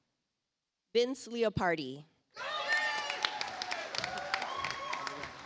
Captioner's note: audience applauds